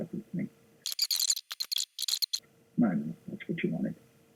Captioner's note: squeaking